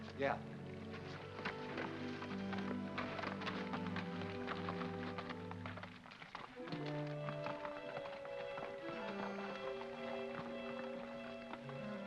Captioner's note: hooves trotting; soft ominous music